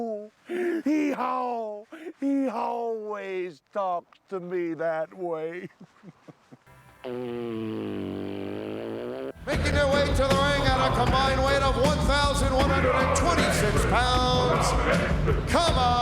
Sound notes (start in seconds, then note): 5.4 laugh